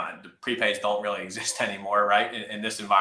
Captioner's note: laughs